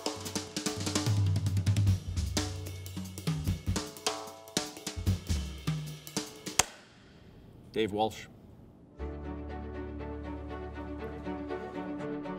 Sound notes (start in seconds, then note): 6.5 clapboard snaps; 8.9 inspirational music